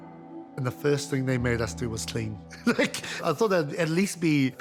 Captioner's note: chuckles